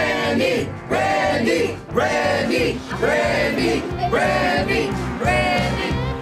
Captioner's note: crowd